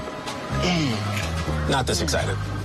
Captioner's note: grunting